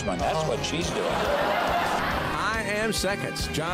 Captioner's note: crowd laughs